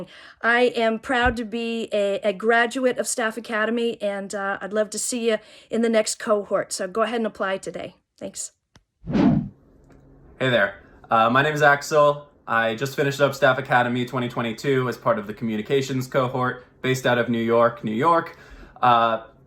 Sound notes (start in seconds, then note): 9.0 transition swooshing